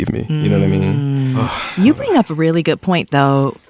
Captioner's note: sighs